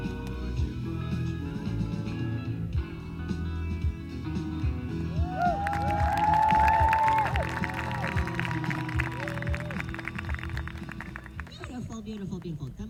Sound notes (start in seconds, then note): 10.1 applause